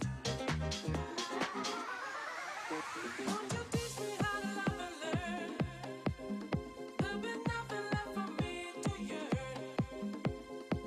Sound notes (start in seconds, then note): none